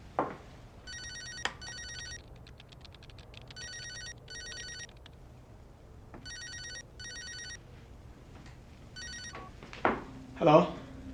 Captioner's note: phone Rings